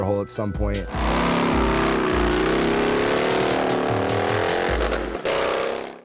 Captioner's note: motorcycle engine revving